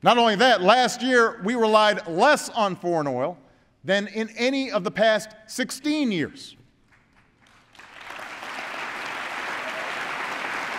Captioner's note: applause